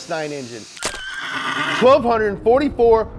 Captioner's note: horse neighing